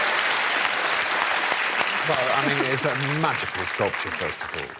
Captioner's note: applause